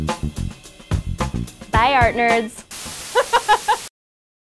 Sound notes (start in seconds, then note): 0.0 jazzy music; 3.1 laughing